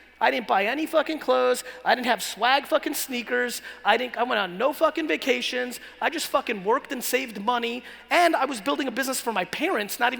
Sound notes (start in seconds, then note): none